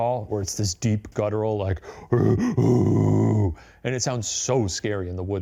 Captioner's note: grunting